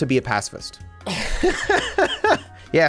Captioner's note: laughs